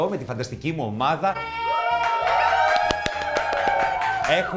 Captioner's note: team shouts